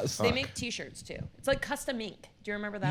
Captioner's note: laughs